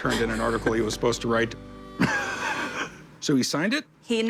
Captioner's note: laughs